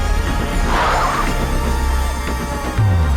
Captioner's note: brakes squeal